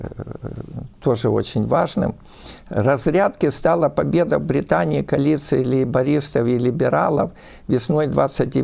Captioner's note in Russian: фыркает